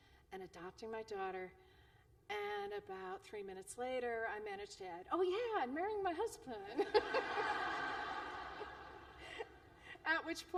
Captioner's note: laughter